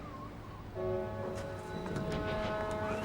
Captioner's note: wind whistling